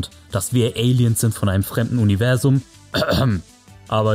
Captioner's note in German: Husten